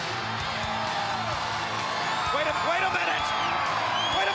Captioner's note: crowd cheering